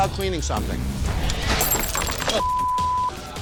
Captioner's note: glass tinkling